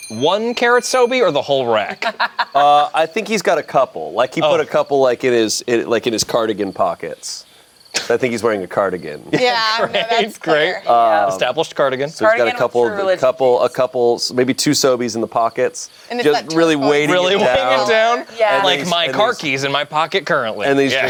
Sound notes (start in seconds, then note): 1.8 laughs